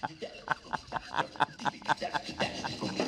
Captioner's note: laughing